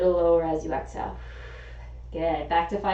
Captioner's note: exhaling